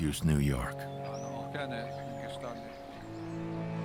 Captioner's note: man continues speaking